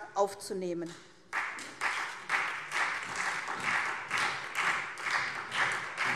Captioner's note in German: Beifall SPD